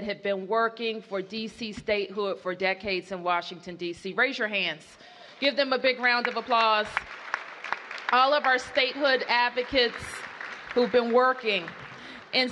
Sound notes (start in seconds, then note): 5.9 applause